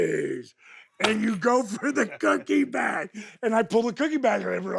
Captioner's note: Steve laughs